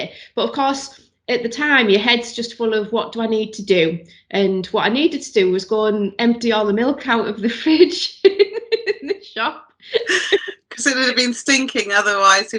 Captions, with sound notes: But, of course, at the time, your head's just full of what do I need to do. And what I needed to do was go and empty all the milk out of the fridge in the shop. (laughs) - Cause it would've been stinking otherwise